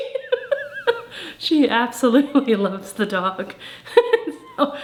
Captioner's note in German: lacht